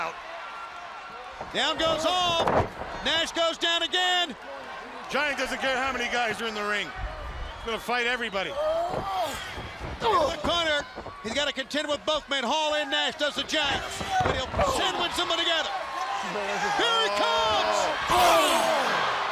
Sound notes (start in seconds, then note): 6.3 crowd chatter; 19.1 crowd chatter